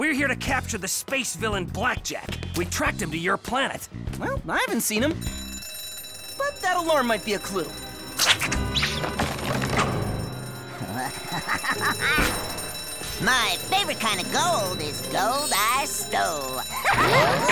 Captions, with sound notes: We're here to capture the space villain, Blackjack. We tracked him to your planet. Well, I haven't seen him. [bell rings] But that alarm might be a clue. [laughing] My favorite kind of gold is gold I stole. Ha ha ha!